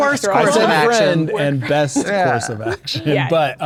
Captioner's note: players laughing